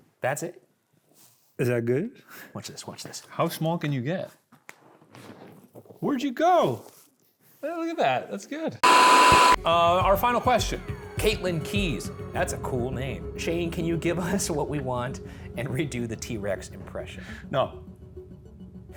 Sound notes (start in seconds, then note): 8.8 static hisses